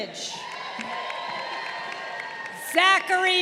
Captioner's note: crowd cheering